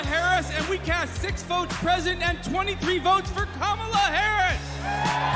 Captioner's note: cheers and applause